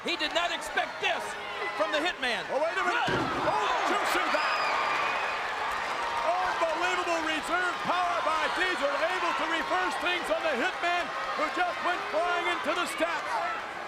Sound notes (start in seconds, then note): 5.2 crowd cheers